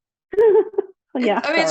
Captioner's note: laughs